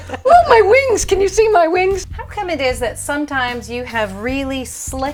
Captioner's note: laughter